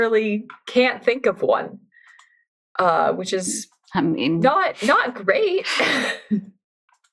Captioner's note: laughs